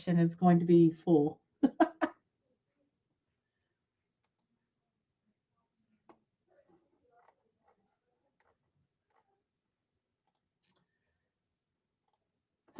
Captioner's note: laughter